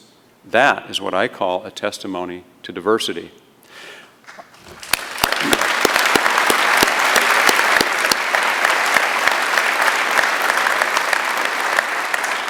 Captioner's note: applause